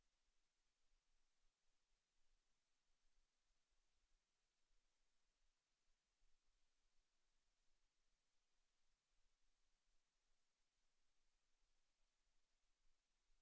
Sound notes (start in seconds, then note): none